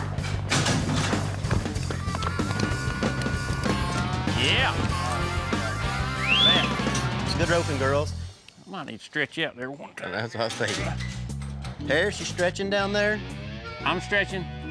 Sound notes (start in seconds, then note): 0.1 gate opens, hoof beats; 6.0 whistling